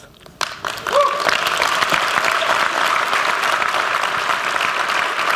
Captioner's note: applause